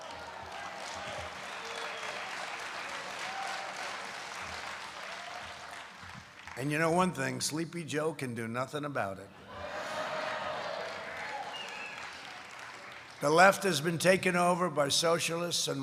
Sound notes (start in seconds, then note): 0.0 applause; 9.8 laughter